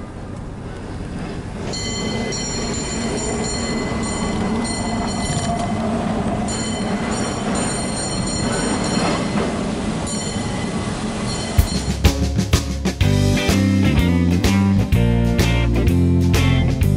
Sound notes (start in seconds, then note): 0.0 street and traffic sounds, cable car sounds in distance; 1.4 cable car bell ringing rhythmically and continuously